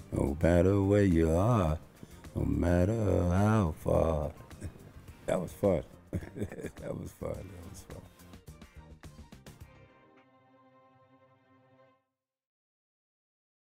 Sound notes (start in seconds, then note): 6.1 laughs; 9.5 upbeat music